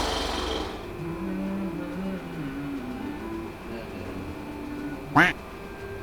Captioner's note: humming a song